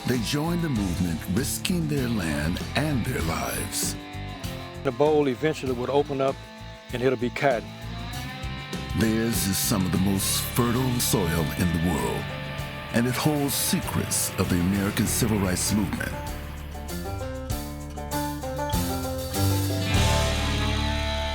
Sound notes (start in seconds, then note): 9.3 voiceover; 16.6 upbeat country music